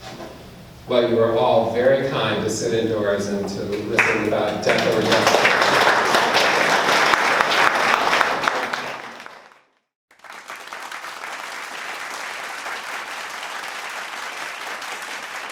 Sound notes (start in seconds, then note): 5.7 applause